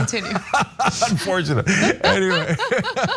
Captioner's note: laugh